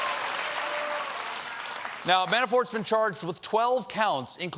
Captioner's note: cheers and applause